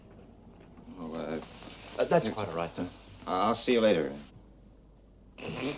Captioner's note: snorts